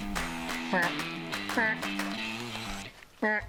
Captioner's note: deer call